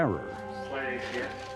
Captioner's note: murmurs